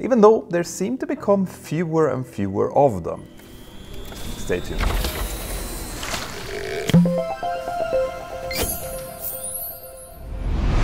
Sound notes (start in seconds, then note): 6.8 playful chime